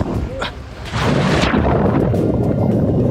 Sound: water splashing; water bubbling

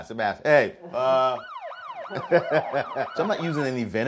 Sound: police sirens wailing

